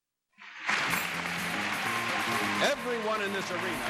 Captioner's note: applause